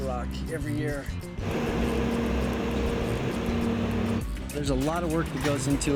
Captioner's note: engine roaring